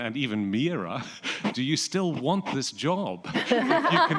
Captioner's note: laughter